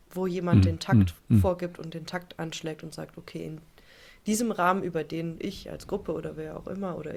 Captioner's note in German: räuspern